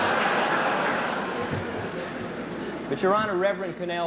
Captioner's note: laughter